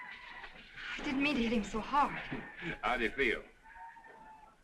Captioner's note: chuckling